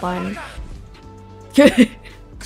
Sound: laughs

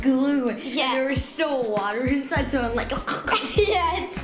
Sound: choking

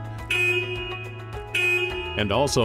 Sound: horn honking

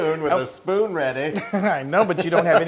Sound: laugh

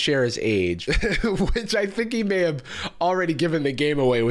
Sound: chuckles

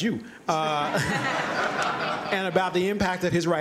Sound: laughter

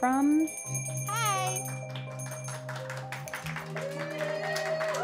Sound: bell ringing; clapping and cheering

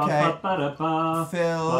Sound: vocalizing

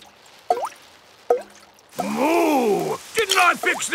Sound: water dripping

